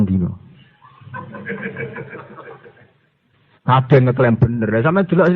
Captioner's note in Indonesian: Para santri tertawa